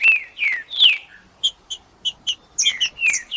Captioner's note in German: trinca ferro cantando